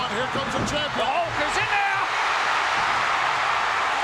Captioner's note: audience cheering